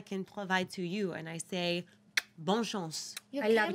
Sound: speaks in foreign language

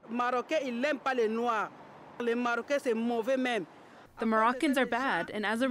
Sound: through translator

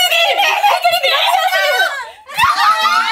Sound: screaming

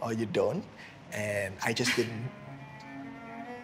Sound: laughs

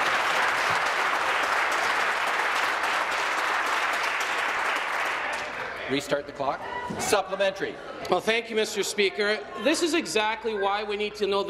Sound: applause

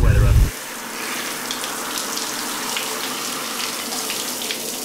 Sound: shower running

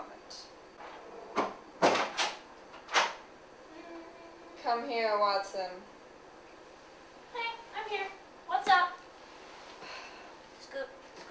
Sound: door opening

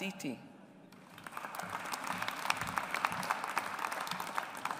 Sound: audience applauds

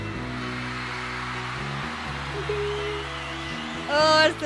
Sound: audience cheers

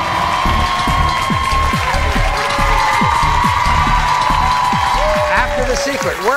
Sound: cheering and applauding; upbeat music

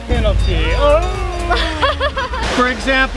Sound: nervous laugh

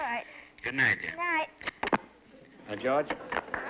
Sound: on phone

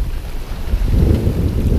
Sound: sound of wind

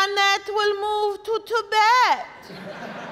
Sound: audience laughing

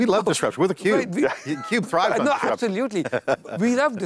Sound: laughs

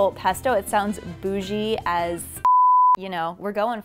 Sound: beep

